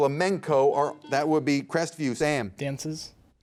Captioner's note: buzzer beeps